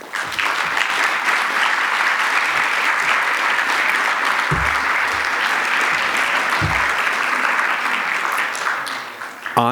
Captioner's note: applause